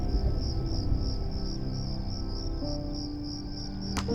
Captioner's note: crickets chirping